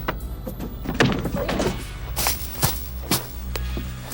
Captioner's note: punch thudding